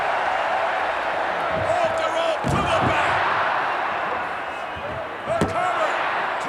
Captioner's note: applause